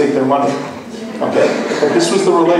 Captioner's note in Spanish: laughs